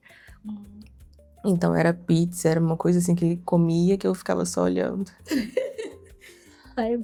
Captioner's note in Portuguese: risadas